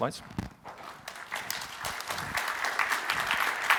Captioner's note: applause